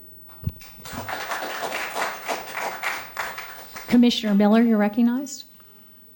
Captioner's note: applause